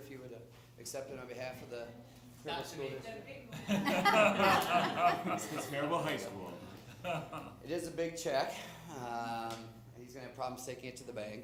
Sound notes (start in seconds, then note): 5.2 laughter